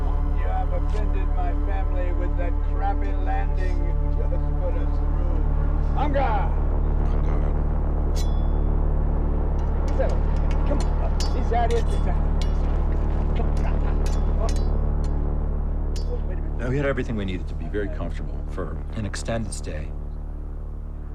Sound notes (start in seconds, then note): 8.2 clinks; 12.3 metal clinking